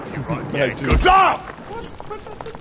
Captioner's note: ahhh!